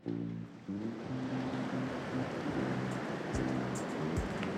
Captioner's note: river roaring